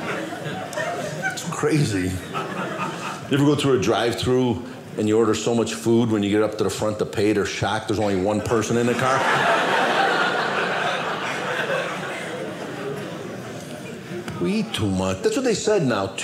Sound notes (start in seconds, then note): 8.8 audience laughing